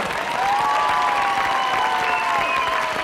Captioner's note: cheering and applause